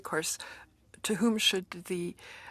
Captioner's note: speaking FRENCH